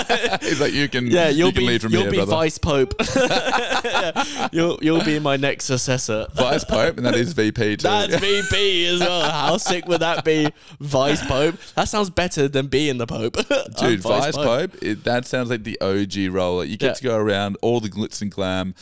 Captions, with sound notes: (laughing) - He's like, you can leave from here, brother. - Yeah, you'll be Vice Pope. (laughing) You'll be my next successor. - Vice Pope, and that is VP too. - That's VP as well. How sick would that be, Vice Pope? That sounds better than being the Pope. - Dude, Vice Pope, that sounds like the OG roller. You get to go around all the glitz and glam,